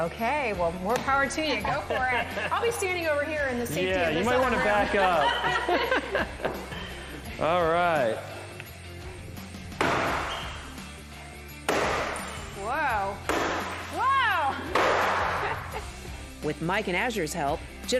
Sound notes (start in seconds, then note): 4.3 laughing; 9.8 loud banging